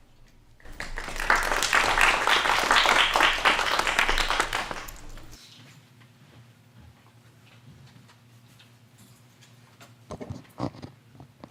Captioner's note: applause